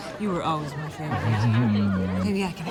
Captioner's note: chuckles